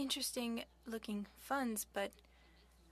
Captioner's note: speaking French